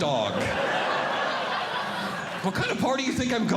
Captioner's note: audience Laughing